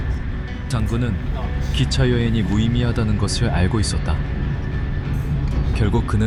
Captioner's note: speaker speaking foreign language